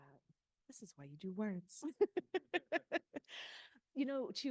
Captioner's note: laughing